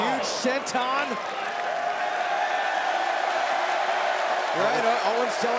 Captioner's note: crowd cheering